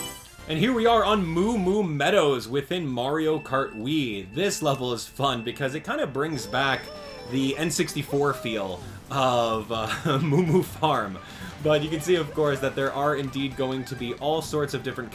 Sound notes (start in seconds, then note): 0.0 Mario Selection Sound; 9.8 laugh